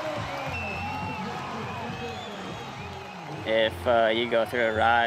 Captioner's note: crowd cheering